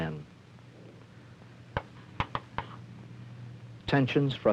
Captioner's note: chalk tapping